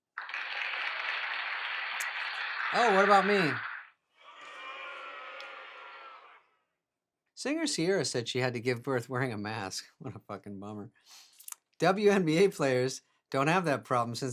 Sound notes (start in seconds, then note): 0.0 crowd applauding; 4.2 crowd booing